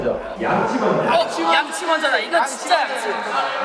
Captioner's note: all shout out brush first